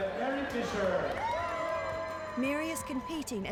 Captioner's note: cheering